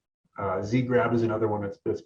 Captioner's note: murmurs